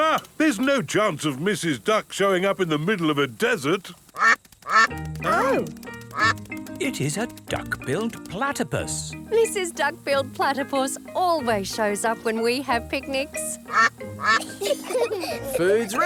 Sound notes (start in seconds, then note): 4.6 quacking; 13.5 quacking; 14.2 children giggle